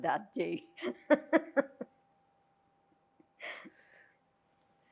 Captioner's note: laughing